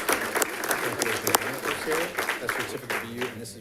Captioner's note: background chatter